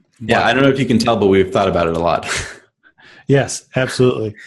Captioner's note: laughs